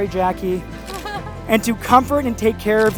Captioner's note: female laughs